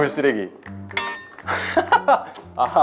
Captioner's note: laughing